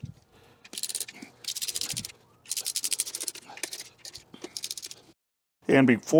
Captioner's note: ratchet Noises